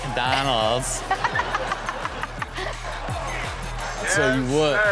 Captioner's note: Chanel and audience laugh